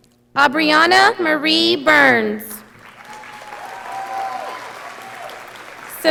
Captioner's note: audience applauding